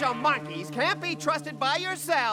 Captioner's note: groans